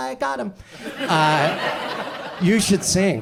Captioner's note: audience laughs